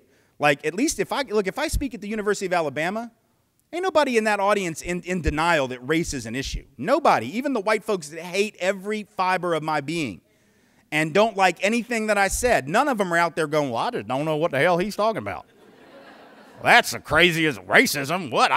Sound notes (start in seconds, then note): 13.7 southern drawl; 15.5 laughter